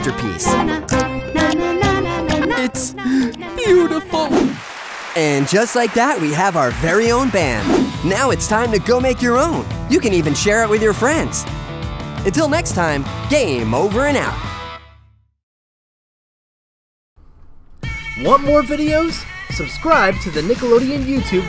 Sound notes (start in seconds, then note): 3.0 gasps